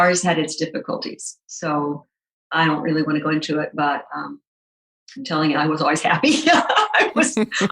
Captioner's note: laughs